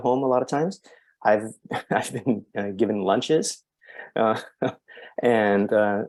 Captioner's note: chuckles